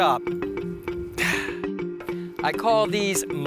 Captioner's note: sighs